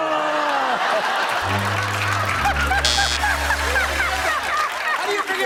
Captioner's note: laughter